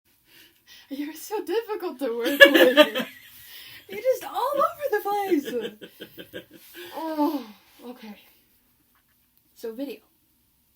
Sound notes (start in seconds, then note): 3.8 laughing